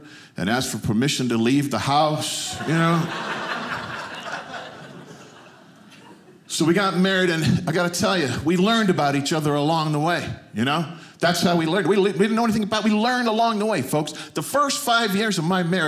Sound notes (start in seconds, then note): 2.4 audience laughing